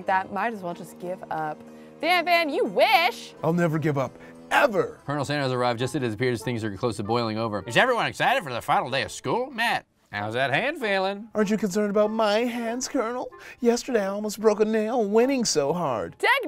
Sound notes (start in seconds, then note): none